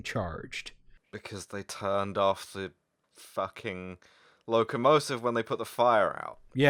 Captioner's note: in voice of mounting horror